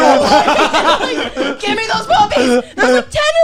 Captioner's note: laughing